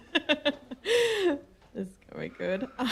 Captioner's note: giggling